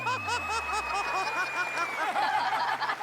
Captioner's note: laughing